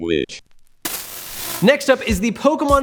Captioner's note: soft static